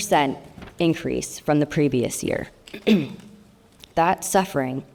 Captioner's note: clears throat